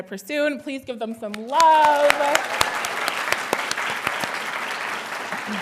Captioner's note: audience applauding